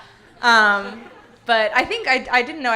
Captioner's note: audience laughing